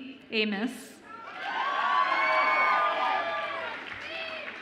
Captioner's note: audience applauds and cheers